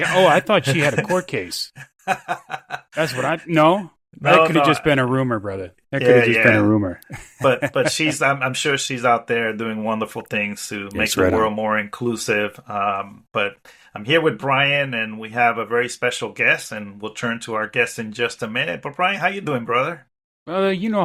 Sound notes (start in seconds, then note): 2.7 laughing